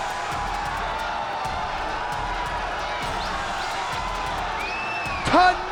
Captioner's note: crowd cheering continues